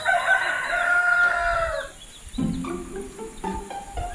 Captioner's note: cock crowing; light, lively music